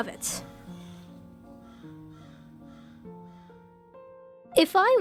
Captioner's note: crows caw